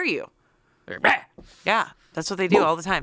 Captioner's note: yells